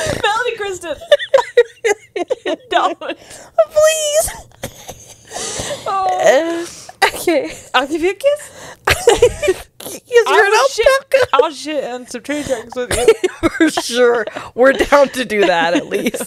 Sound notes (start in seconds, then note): 0.8 laughs; 8.9 panel laughing